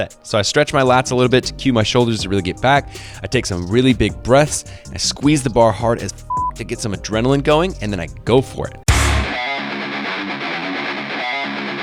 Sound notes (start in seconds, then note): 6.3 beep; 9.1 upbeat music